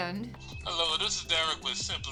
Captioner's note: alarm beeping